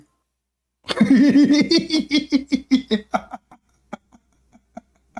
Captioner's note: Ketawa